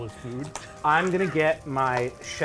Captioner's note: food sizzling